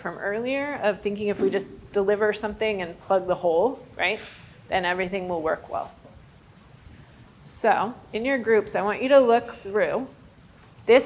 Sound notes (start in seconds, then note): none